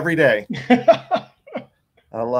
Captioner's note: laughing